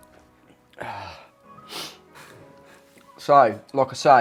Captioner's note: sighs